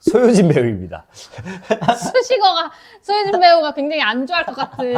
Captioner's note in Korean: ㅋㅋ